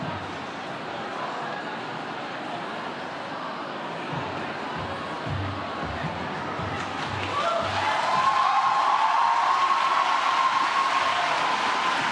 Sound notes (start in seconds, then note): 6.7 audience cheering and clapping